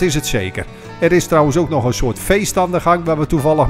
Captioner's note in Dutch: Voiceover